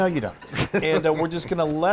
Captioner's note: laugh